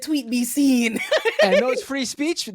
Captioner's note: laughs